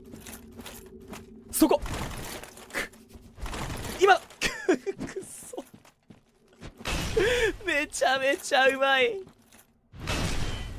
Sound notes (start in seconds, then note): 4.0 struggles; 7.1 sobs louder